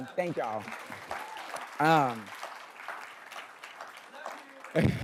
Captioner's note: attendees applauding